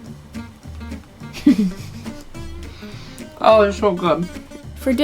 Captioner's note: laughs